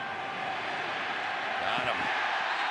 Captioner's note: cheers, applause